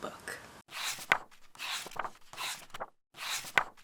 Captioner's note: pages turning